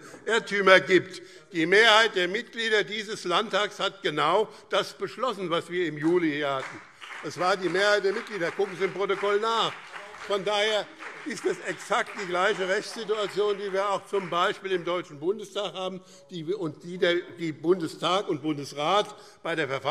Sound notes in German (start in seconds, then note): 9.6 Beifall BÜNDNIS 90/DIE GRÜNEN und CDU - Zurufe AfD: Unglaublich!